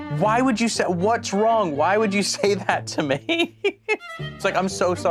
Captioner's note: laughs